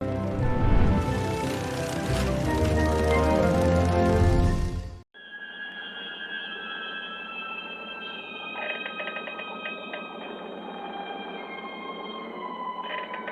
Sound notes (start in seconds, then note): 5.1 suspenseful music; 8.6 wood creaking